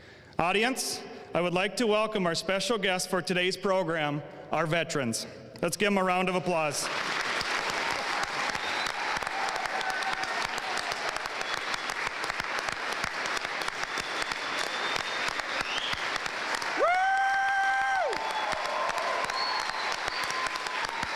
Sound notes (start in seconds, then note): 7.0 audience applauding; 7.0 audience cheering